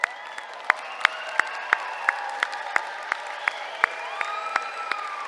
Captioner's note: applause